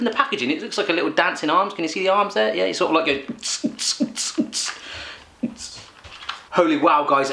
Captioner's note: makes dance beat noise